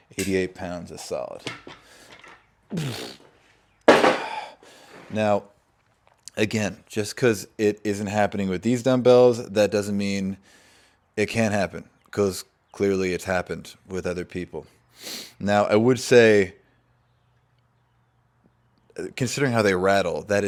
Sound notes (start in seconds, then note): 2.7 grunts